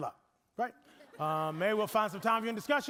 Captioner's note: audience laughing